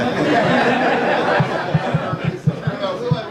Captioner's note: audience laughs